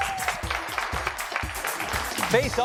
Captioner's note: applause